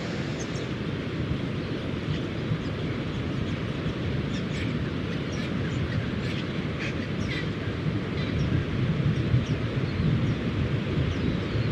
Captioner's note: wave sounds and birds chirping